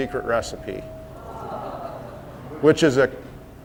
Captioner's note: crowd sighs